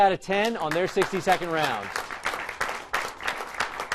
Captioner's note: applause